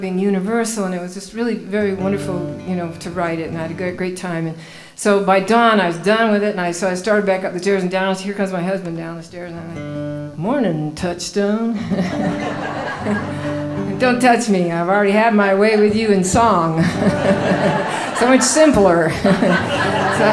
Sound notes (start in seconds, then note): 11.7 laughing